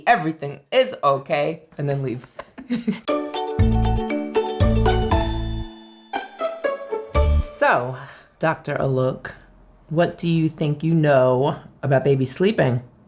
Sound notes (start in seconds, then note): 2.4 laughing; 3.0 upbeat music